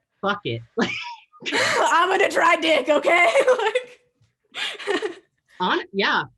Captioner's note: both laughing